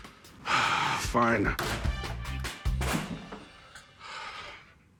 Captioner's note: sighs; thud